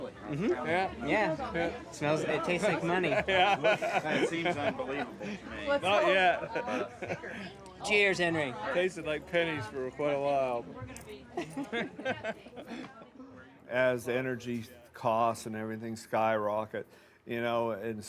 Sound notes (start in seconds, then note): 3.2 laughing; 11.4 both laughing